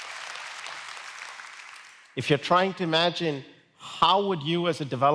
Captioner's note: applause